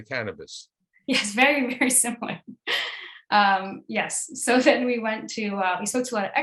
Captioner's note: laughs